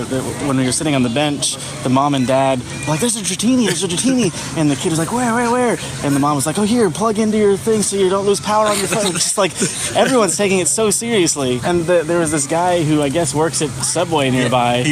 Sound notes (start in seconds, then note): 3.6 laughs; 8.3 laugh